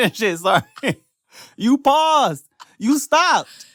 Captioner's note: laughs